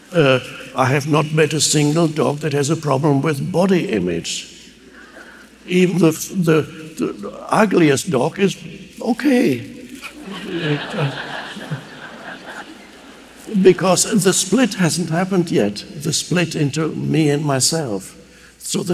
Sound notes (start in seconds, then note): 9.7 audience laughing